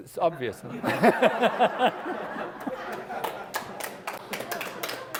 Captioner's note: laugh; applause